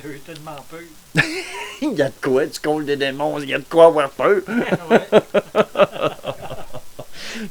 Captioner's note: laugh